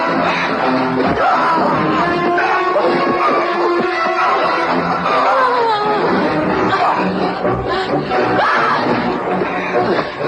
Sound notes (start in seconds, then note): 4.8 moaning